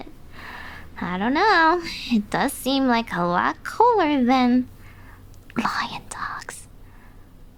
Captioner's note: whispers